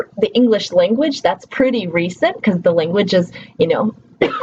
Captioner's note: coughs